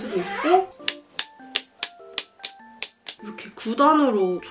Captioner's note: snap